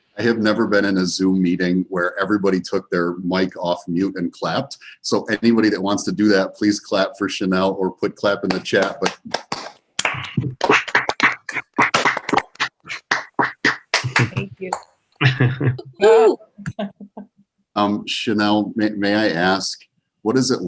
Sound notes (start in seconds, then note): 10.0 participants clapping